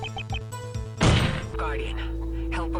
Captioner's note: beeping; gunshot